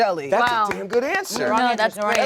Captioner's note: clapping